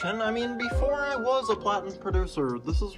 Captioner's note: none